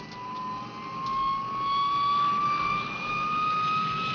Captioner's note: plane whirring